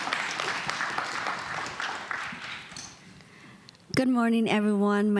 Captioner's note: applause